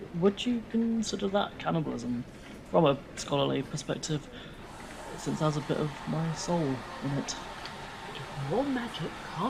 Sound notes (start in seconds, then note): 4.7 milk frother hissing